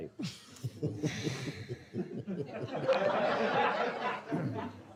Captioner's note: audience chuckles